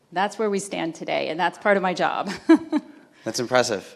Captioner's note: chuckles